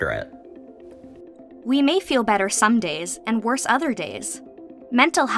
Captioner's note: voice-over